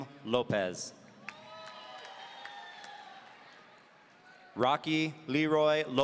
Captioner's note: audience cheering